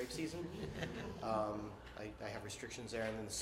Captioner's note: laughter